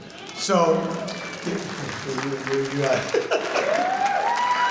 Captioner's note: audience cheering